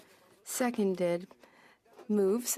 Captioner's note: speaking French